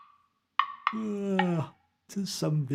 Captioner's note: yawn